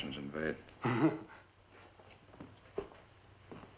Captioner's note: chuckles